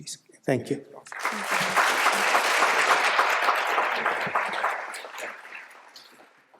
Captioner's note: applause